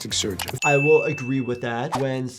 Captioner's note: bell dinging